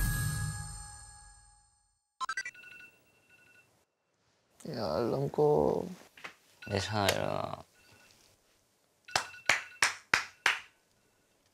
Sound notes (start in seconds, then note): 2.2 alarm rings in the quiet dorm